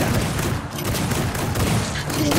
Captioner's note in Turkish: Silah sesleri